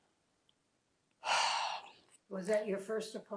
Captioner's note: sighing